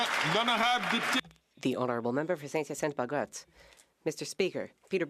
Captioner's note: some Applause